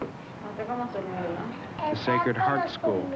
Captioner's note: Spanish speaking